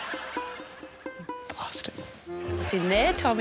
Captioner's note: quietly